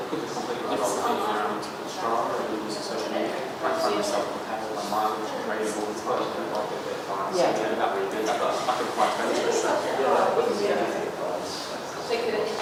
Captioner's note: audience discusses ideas for features among themselves